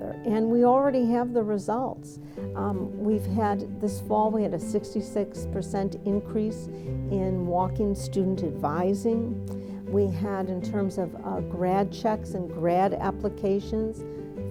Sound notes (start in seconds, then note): none